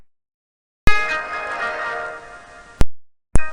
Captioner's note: Really Evils Windows XP Shutdown